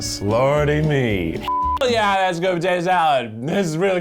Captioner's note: beep